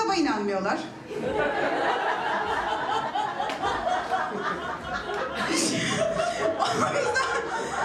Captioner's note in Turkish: Gülüşmeler